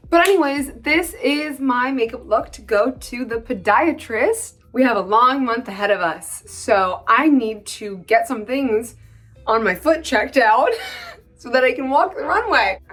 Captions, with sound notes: But anyways, this is my makeup look to go to the podiatrist. We have a long month ahead of us. So I need to get some things on my foot checked out [laughs] so that I can walk the runway.